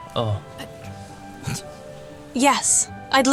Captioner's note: poppy snorts